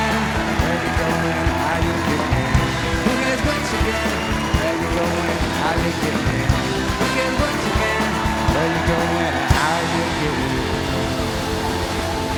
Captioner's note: cheers and applause